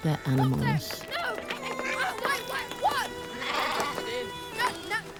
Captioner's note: German spoken audio